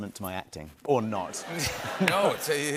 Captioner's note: laughter